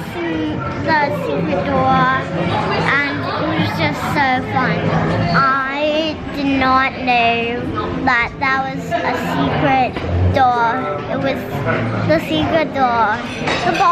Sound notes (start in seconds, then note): none